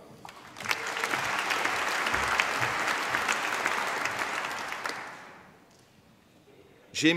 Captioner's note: applause